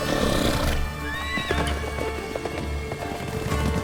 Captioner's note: horse neighs